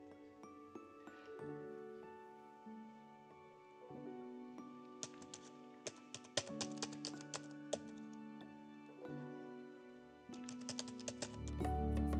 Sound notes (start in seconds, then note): 0.2 soft music; 5.0 keyboard clicking